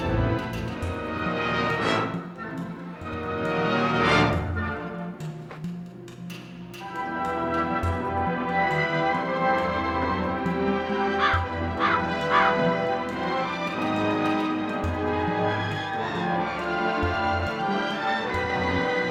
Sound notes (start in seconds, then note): 11.0 bird squawks; 11.2 ominous music